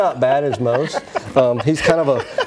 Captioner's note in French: laughter